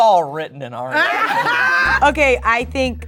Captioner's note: group laughing